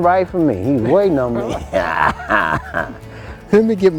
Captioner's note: man laughs